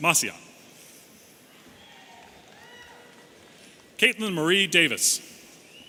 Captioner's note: audience cheering